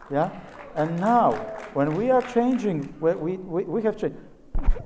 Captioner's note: audience cheers